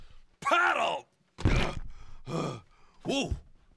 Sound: breathing heavily

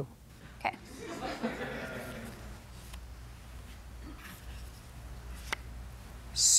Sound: laughter

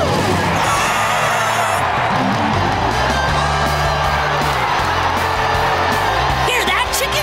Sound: cheering

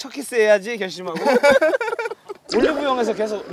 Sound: laughing

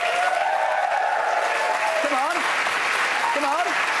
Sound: applause

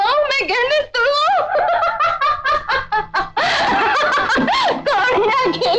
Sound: laughs

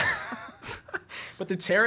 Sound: laughing

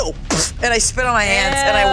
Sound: Bug spits

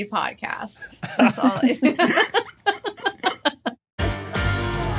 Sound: group giggling

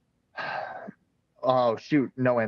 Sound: sighs

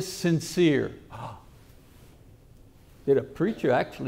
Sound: gasps

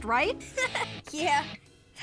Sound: laughing

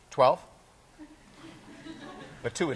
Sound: class laughing

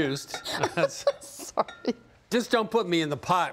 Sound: laughing

